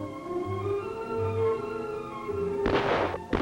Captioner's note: gunshots